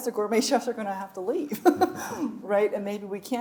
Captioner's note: chuckles